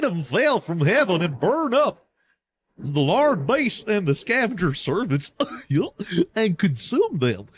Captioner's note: chuckle